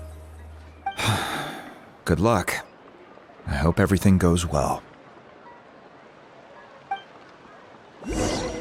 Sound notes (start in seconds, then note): 1.0 sigh